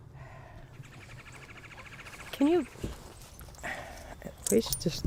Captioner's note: the hard metal clank of coins